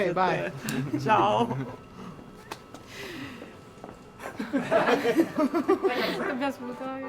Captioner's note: laughing